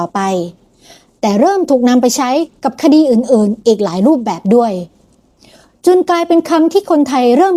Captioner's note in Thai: เสียงสูดหายใจ